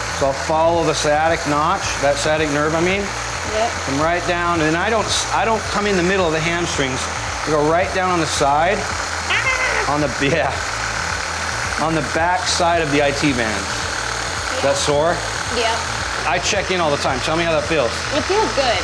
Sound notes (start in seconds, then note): 11.1 whirring sound